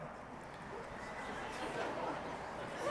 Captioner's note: laughter